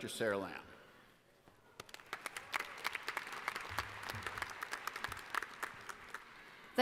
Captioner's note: applause